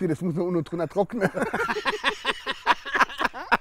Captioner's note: Lachen